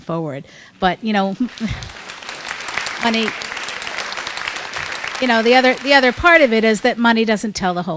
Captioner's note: applause